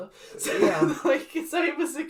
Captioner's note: laughs